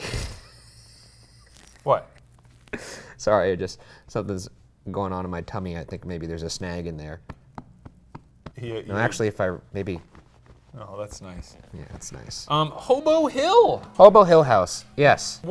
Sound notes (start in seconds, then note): 0.2 laughs; 7.2 hand thumps